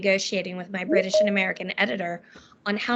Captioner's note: beeping